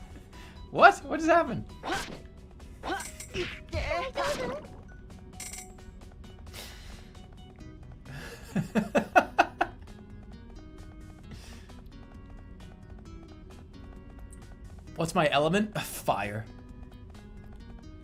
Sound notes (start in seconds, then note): 8.1 laughing